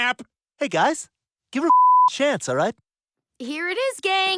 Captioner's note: beep